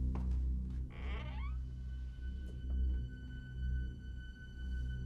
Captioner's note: door creaking